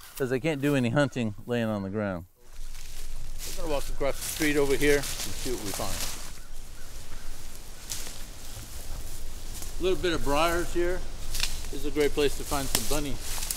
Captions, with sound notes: 'cause they can't do any hunting laying on the ground. We're gonna walk across the street over here and see what we find. [leaves crunching] Little bit of briars here. This is a great place to find some bunny.